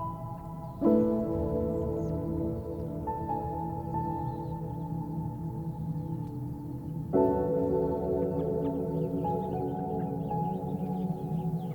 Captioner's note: birds chirping; serene music; birds chirping; serene music